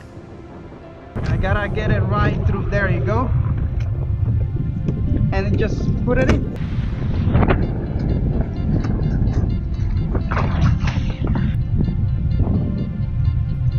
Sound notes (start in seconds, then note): 7.6 wind blowing; 9.5 water splashing; 13.6 wind and music continue